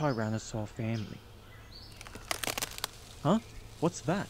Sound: A russel in the bushes

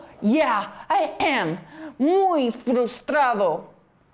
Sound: in spanish

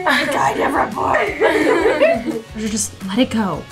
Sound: laughing

